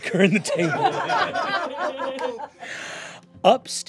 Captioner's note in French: rires